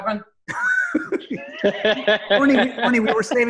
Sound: laughing

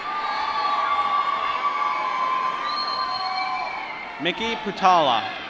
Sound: applause

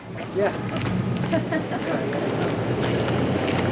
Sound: laughs

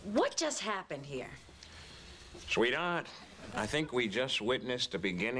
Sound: Imitating Humphrey Bogart

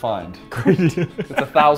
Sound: laughs

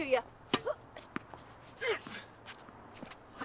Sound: Barry groans

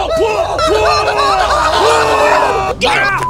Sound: screaming

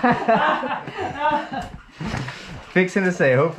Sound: everyone laughs

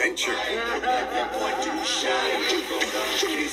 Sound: sinister laughter

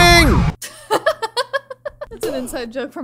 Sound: chuckles

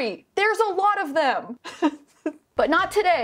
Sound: laughs

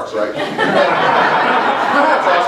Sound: laughter

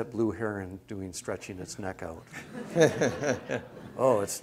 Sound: laughter

